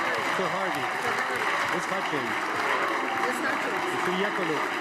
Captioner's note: cheers and applause